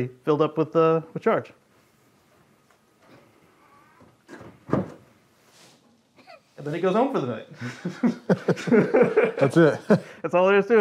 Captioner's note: laughter